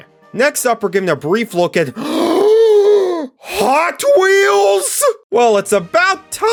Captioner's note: gasp